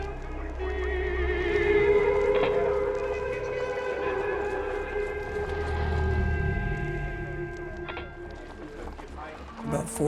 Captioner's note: distorted voice echoing